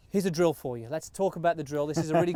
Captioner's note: laughing